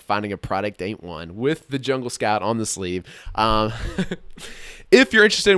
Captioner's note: laughs